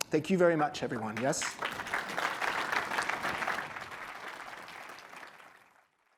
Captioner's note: applause